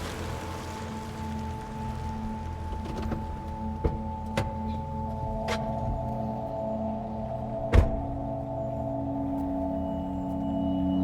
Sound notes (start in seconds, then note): 0.0 engine ticks over; 7.7 door closes